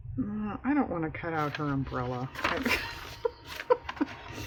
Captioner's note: laughs